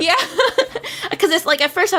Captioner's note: laughs